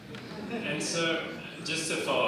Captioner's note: audience laughing